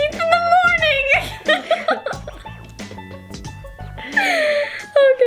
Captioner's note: both laugh; laughs